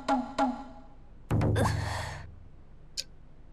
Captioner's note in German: seufz